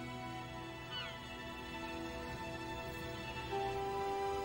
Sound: birds crying

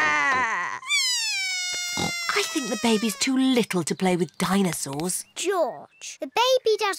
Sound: bawls

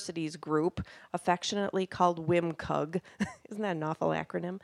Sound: laughing

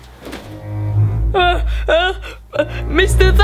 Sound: cries

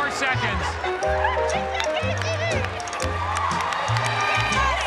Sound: cheers and applause

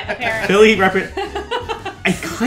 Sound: laughs

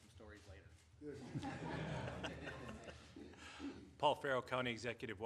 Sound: laughter

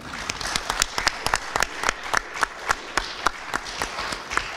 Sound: audience applauds

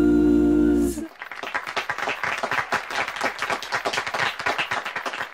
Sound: applause

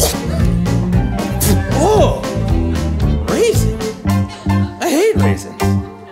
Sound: spits

